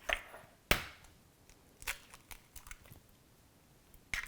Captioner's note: egg cracking